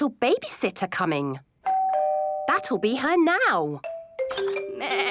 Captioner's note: doorbell rings